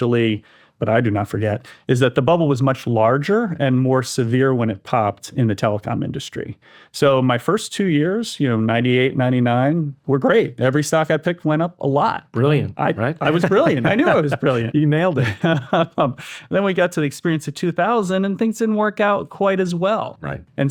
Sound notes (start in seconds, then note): 15.2 laughs